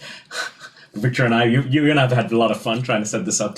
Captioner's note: sighs